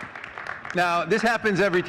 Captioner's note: audience clapping